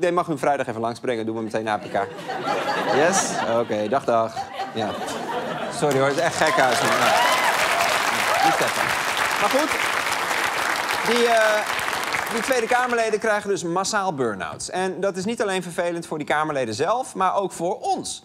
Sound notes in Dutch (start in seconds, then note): 9.1 applaus